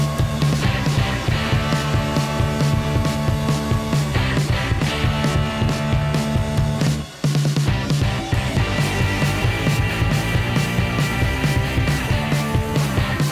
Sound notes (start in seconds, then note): 1.9 sander buzzing